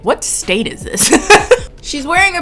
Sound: laughs loudly

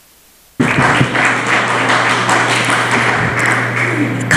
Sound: applause

